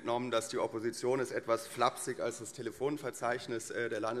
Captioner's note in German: none